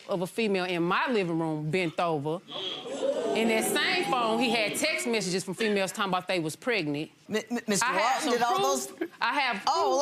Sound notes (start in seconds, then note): 2.6 audience gasps